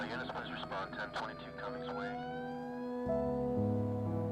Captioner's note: radio chatter